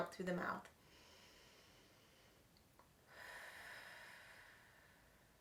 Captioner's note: inhaling and exhaling